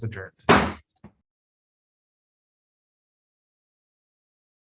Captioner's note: gavel bangs